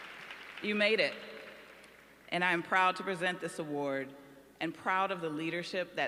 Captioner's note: applause